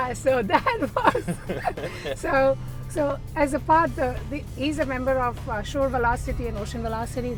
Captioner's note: laughter